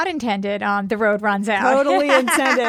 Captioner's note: laughs